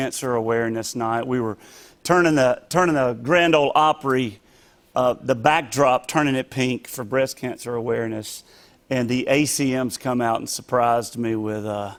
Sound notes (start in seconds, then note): none